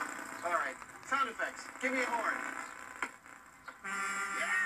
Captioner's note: hi-fi buzzing intensifies; semi truck horn sound effect blares